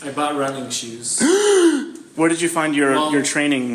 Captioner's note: gasps in a ridiculously exaggerated manner